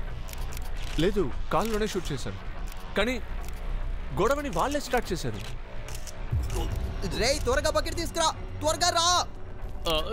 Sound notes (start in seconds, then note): 4.3 cameras clicking photographs